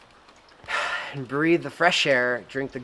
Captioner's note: exhales